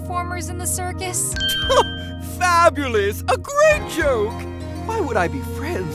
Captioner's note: scoffs